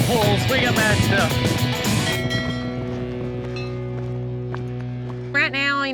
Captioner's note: ringing bells